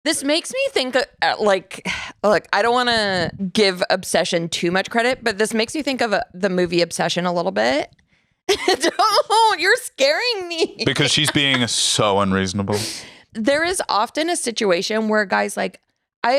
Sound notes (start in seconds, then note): 10.6 laughs